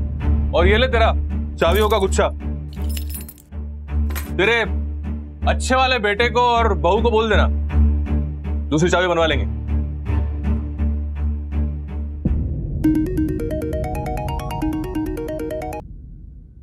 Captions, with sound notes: And here is your bunch of keys. Tell your ideal son and daughter-in-law... To get spare keys made. [phone rings]